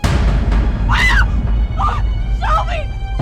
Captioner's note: Nellie screams